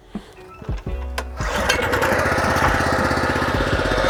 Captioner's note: motor starting